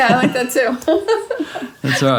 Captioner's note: laughing